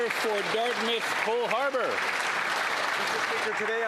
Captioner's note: applause